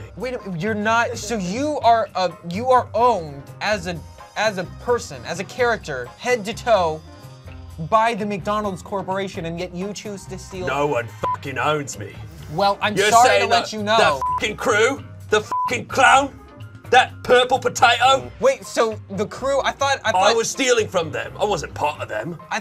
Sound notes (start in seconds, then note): 11.2 beep; 14.0 beep